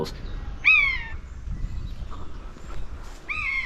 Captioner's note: buzzard squawks